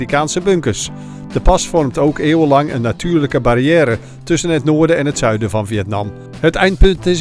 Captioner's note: voiceover